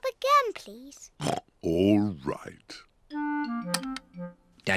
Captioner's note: oinks